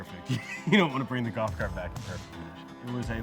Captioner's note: chuckles